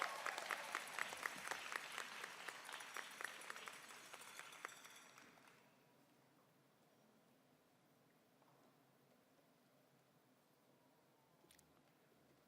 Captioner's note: applause